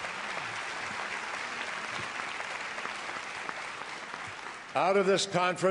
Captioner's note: applause